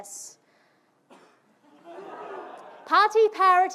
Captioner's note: audience laughing